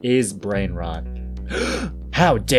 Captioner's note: gasp